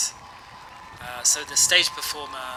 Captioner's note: background applause